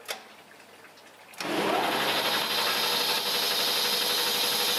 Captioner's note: whirring